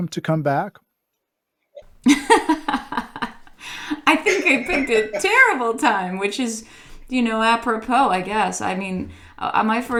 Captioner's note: laughs